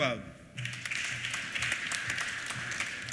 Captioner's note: applause